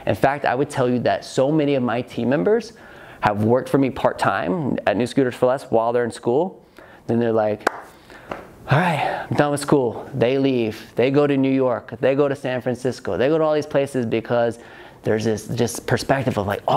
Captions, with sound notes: In fact, I would tell you that so many of my team members have worked for me part time at New Scooters 4 Less while they're in school. Then they're like, (sighs) all right I'm done with school. They leave, they go to New York, they go to San Francisco. They go to all these places because there's this perspective of like,